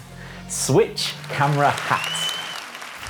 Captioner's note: applause sound effect